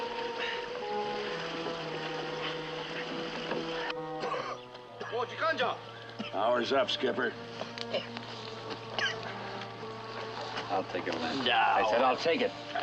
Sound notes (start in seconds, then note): 4.8 speaking japanese; 8.7 coughing